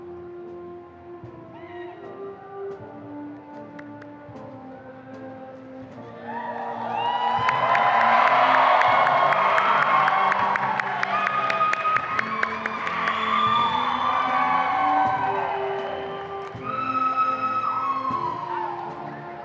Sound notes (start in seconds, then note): 6.1 crowd cheering loudly; 17.0 band playing